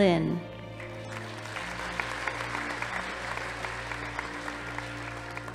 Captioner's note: audience applauding